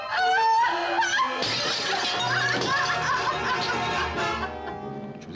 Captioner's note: suspenseful orchestral music; glass shatters